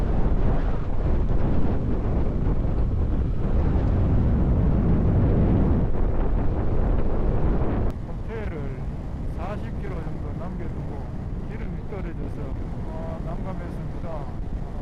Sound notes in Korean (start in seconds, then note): 3.8 바람소리가 갈수록 더 심해집니다